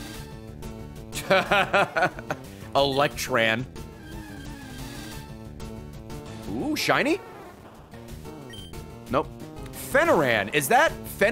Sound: laughs

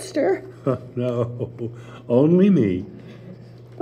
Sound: chuckling

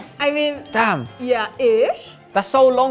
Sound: bell dings

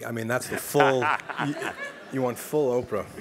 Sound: laugh

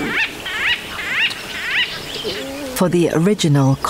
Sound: bird squawking

